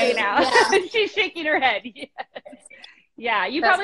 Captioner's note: laughs